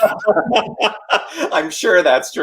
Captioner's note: both laughing